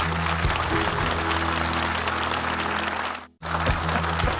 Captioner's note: audience applauding; uplifting music